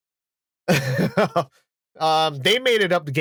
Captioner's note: laughs